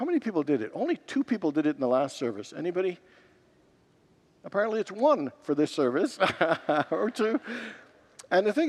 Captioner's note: laughs